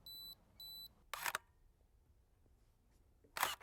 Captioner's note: camera clicking